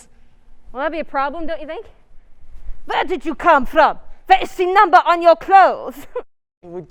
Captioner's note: imitating a Nazi